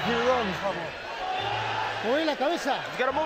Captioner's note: speaking Spanish